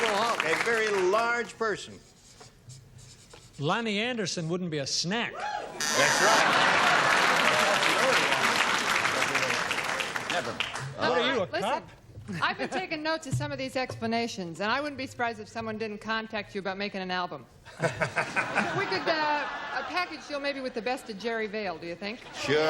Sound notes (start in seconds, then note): 6.0 laughter; 17.7 laughs